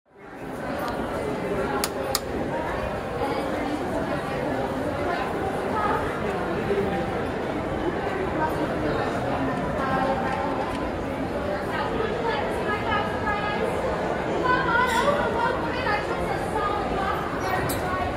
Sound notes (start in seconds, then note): 1.1 chatter